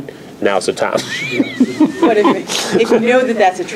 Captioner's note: laughs